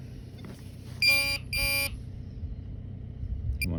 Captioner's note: beep beep